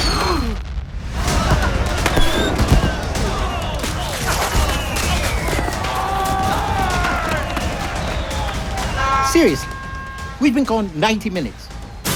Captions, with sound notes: [Shouting] -Seriously? We’ve been gone 90 minutes.